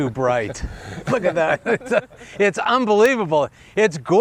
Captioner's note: laughter